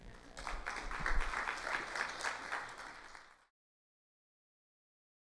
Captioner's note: applause